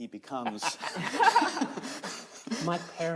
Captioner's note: all laughing